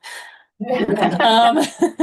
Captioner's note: laughter